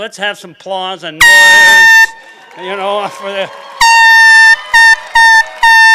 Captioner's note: horn beeping